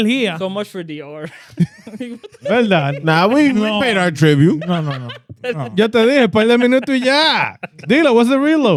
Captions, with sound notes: So much for D-O. (Laughing) Nah, we paid our tribute. (Laughing) (Speaking In Foreign Language) D-Lo, was it reload?